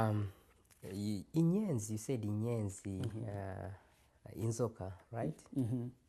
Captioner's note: non-english